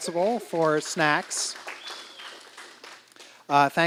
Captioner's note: applause